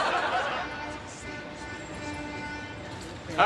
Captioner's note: car horns honking